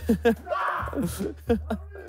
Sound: man screams; laughing

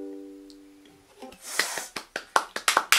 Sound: sniiiff

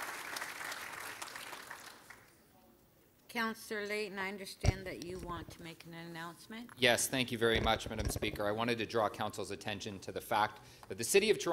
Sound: applause

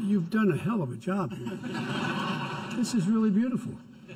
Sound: laughter

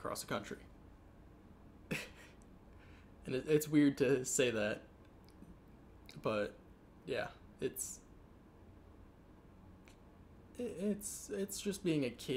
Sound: chuckles

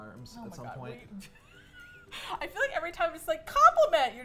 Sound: laughs

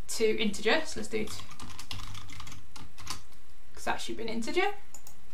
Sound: keyboard clicking

